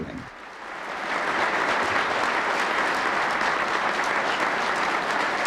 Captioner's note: audience applauding